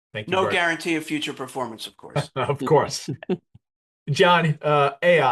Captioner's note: laughs